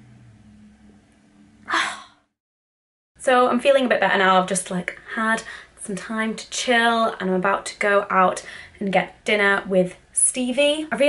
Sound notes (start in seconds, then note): 1.6 sighs